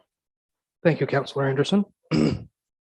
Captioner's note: groans